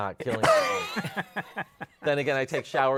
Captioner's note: laughter